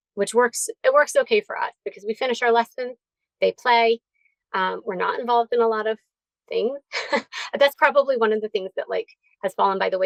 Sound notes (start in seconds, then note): 6.9 chuckles